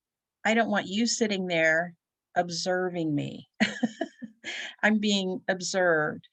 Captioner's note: giggles